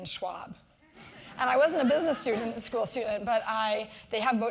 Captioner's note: laugh